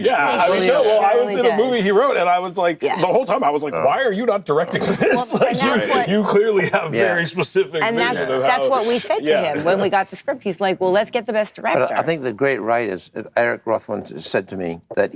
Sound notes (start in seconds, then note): 4.6 laughs